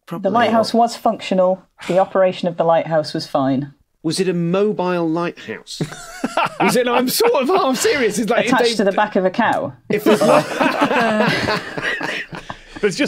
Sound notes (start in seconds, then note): 5.8 laughs; 9.9 group laughing